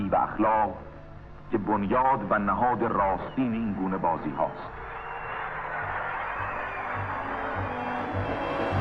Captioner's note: cheering